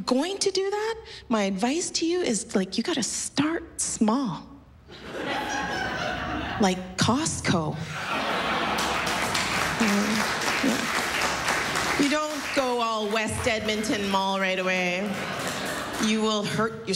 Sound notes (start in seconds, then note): 4.9 laughter; 7.8 laughter, applause